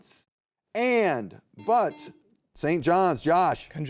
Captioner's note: buzzer beeps